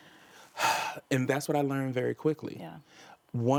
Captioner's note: sighs